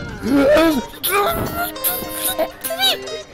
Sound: celebratory noises

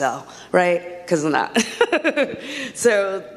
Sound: laughs

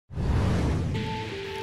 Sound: transition whooshes; upbeat music

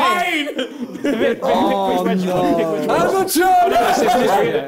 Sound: both mumbling

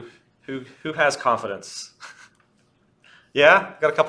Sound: laughs

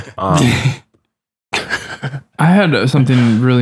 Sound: laughter

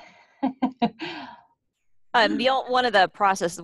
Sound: chuckles

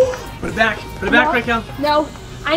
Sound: loud gasp

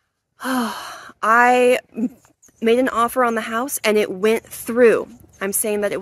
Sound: sighs

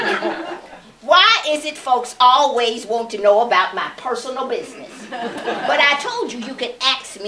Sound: laughter; laughter

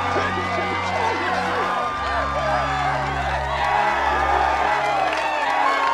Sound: crowd cheering

